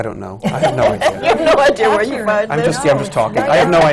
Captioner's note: laughter